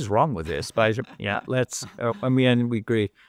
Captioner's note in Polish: śmiech